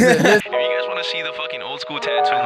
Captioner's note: laughing